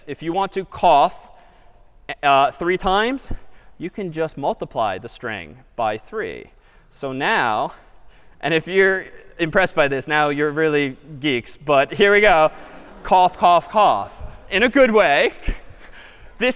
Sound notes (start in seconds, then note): 12.2 laughter